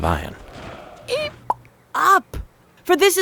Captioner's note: Barak squeaks